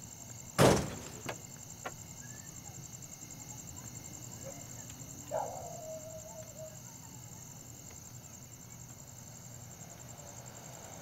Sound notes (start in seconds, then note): 0.6 Car door closes; 5.2 Dogs howling